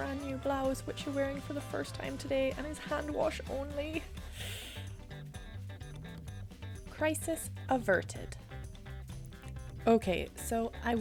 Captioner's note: sigh